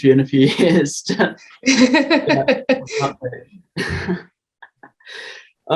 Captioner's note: laughter